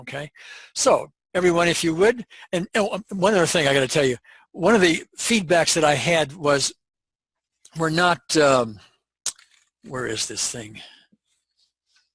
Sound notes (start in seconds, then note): none